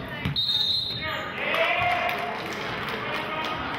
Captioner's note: whistling